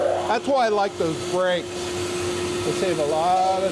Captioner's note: machine vibrating